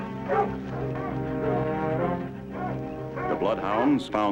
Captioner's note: dogs barking